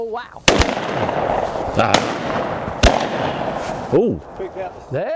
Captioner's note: gunshots firing